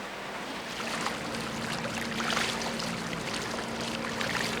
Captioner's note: water rippling; boat engine lightly humming